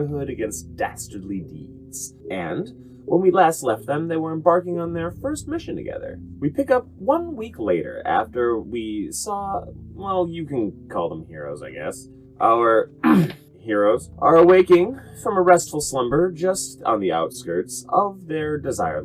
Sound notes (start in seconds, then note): 13.0 ahem